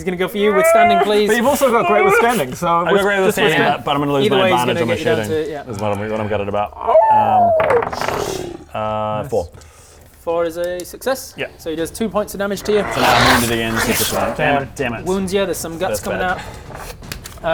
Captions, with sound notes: he's gonna go for you, withstanding please you've also got great withstanding so just withstand it - But I'm gonna lose my advantage on my shooting - either way he's gonna get you down to, yep that's what I'm gutted about *awoooooo!* 4 4 is a success yep so he does 2 points of damage to you So now I'm wounded again dammit dammit wounds ya, there's some guts coming out